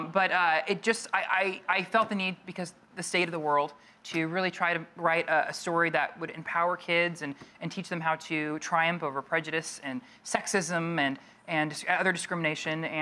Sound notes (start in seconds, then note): none